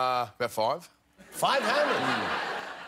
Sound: laughter

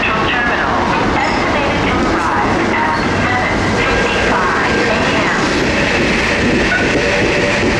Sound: beep

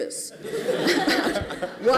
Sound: laughter

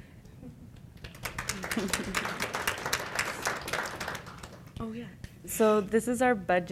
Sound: applause

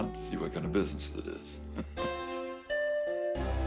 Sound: chuckles

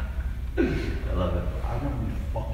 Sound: laughing

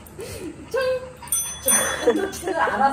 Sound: ding-dong🔔

